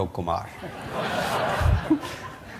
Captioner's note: laughter